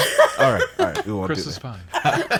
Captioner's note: woman laughs